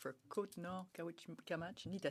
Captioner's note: speaking French